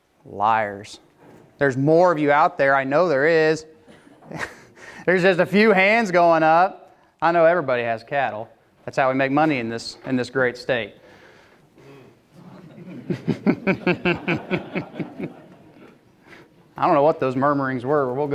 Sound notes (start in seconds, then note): 12.3 murmuring; 12.3 laughing